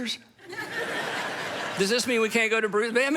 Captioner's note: audience laughs